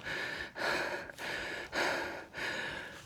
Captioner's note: breathing heavily